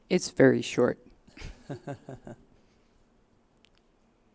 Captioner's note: brief laughter